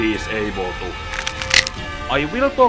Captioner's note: necksnap!